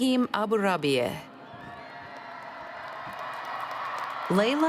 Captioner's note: cheers